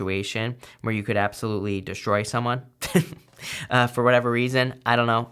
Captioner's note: chuckles